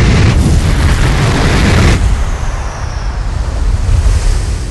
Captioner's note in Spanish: olas rompiéndo